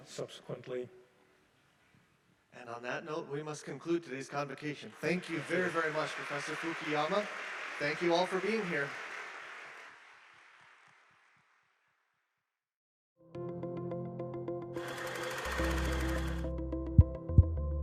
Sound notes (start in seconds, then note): 5.2 audience applauding; 10.1 applause ending; 13.4 upbeat music